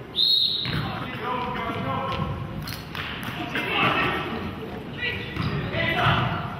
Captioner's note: whistle blows; murmurs